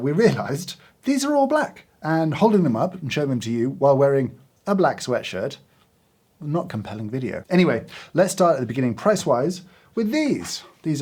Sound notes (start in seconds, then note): none